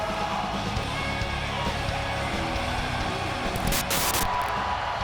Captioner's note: audience cheering; upbeat music